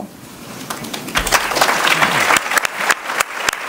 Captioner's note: applause